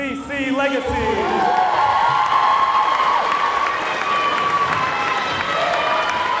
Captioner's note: audience cheering and clapping